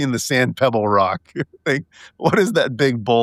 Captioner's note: laughing